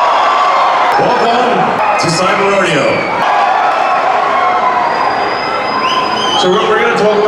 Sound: crowd cheering

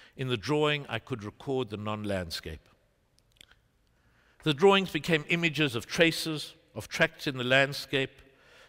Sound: none

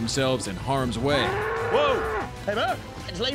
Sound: bull mooing

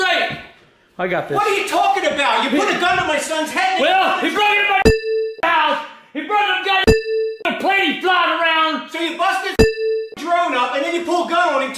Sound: inaudible yelling

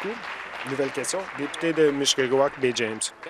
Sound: applause

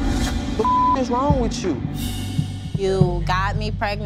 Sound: beeping

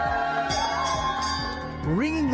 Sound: cheers

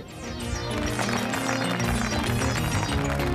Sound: clapping; exit music

